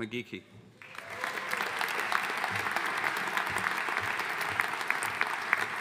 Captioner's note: audience applauding